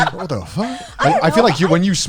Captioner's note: all laughing